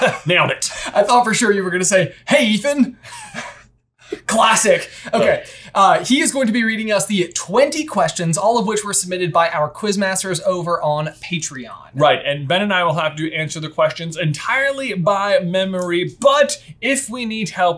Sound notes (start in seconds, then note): 0.0 laughter; 3.0 laughter